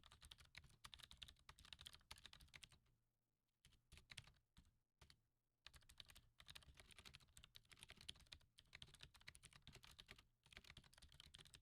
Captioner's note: typing